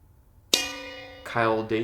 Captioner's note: bell dings